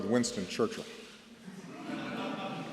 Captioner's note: laughter